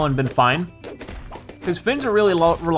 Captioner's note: balloons popping